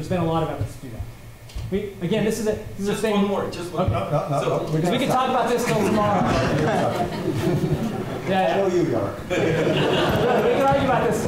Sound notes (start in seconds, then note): 6.5 laughter